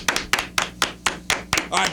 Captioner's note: clapping